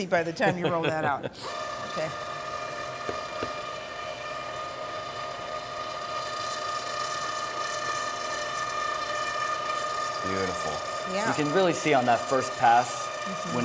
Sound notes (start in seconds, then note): 0.4 laughs; 2.4 machine whirring